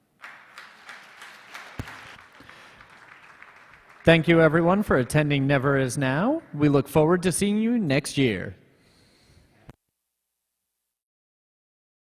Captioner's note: applause